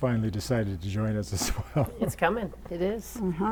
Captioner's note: laughter